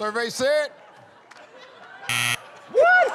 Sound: buzzer

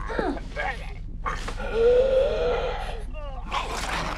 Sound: wheezing

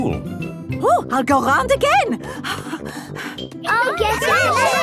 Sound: puffing

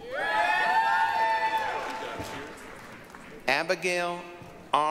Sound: applause, cheering

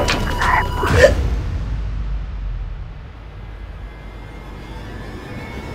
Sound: strangled gasp; eerie music

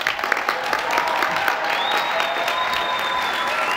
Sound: applause

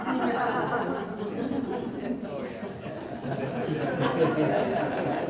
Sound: audience laughing

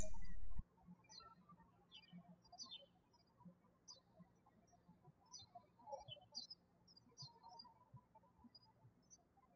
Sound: birds chirping

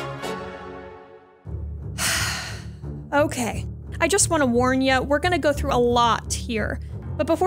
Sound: sigh

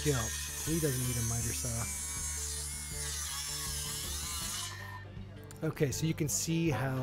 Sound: machine noise drowns out speaker

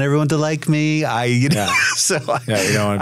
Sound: laughs

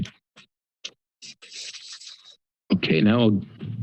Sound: pause

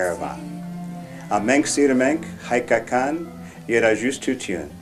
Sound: armenian

